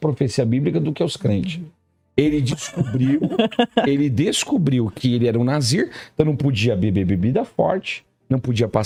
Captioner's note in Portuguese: risadas